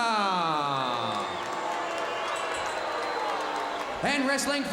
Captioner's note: crowd cheering